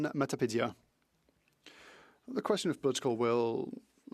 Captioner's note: speaking French